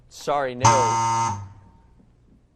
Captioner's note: error buzzer